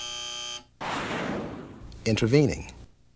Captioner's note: buzzer